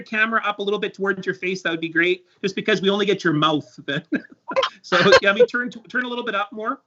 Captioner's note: laughs